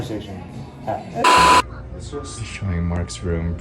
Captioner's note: beep